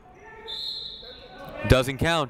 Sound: whistle blowing

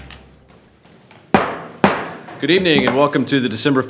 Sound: gavel banging

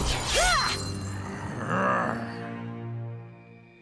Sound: grunting; growling

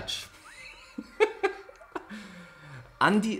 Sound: laughs

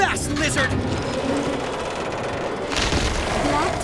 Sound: growling

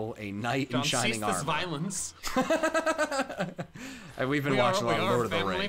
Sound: laughs

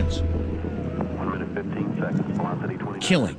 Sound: radio chatter

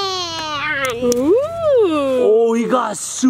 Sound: oohs

